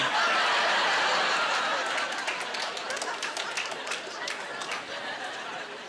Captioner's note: applause